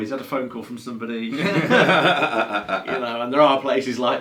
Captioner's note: both laughs